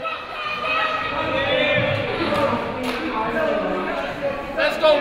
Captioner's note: crowd noise